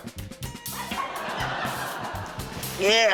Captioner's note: laughter